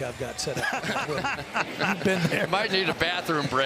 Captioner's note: laughs